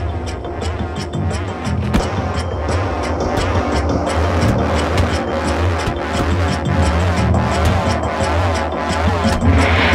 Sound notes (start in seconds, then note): 1.8 bat whacking; 1.8 tense music